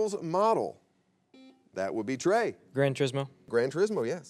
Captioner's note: buzzer beeps